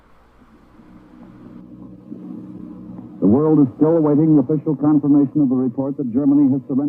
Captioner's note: radio Transmission